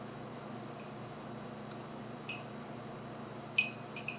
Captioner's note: spoon clinking